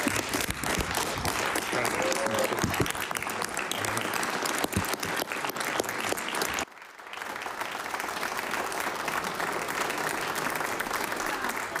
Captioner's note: applause